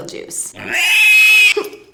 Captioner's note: squeals